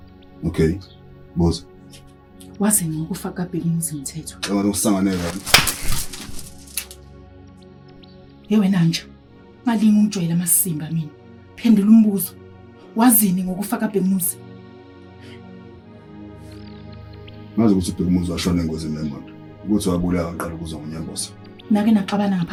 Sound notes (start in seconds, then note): 5.1 hot slap